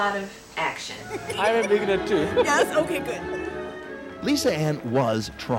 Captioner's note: laughter